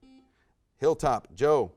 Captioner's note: buzzer buzzes